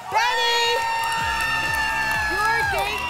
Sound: applause and cheering

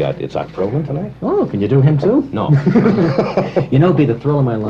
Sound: laughter

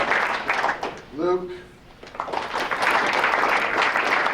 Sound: applause

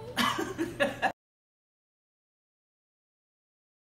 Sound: laughing

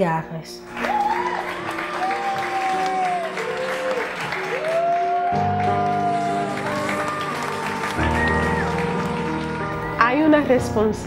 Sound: people clapping

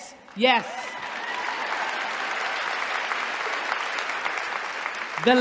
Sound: applause

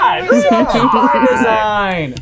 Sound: laughing

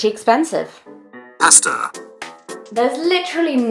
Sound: computer Voice

